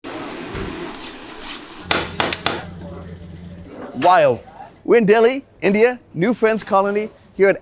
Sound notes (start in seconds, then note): 0.9 knife scraping; 1.9 knife tapping